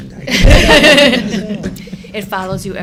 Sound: laughter

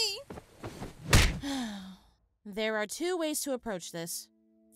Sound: sighs

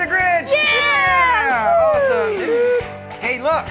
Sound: cheering

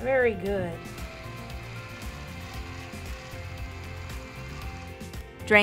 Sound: can opener cutting

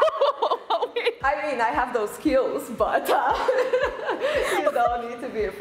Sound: laughing; laughing

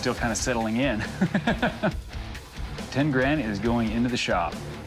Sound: laughs

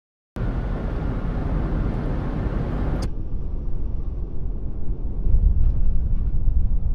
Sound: car accelerating then slow motion

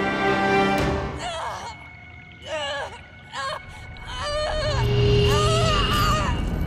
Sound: groaning, screaming

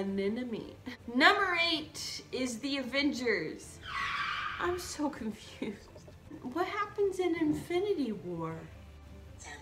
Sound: car screeching to a halt

